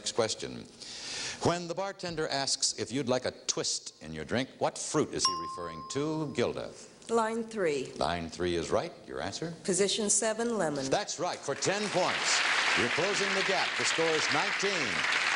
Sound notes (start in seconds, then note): 5.2 ringing bell